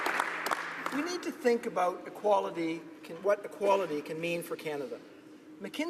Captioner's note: applause